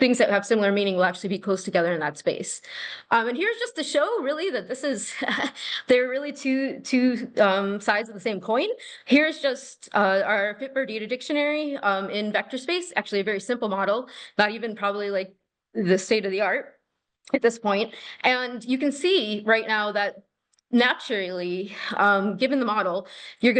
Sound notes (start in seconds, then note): 5.6 laughter